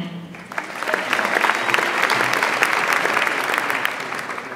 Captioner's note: audience applauds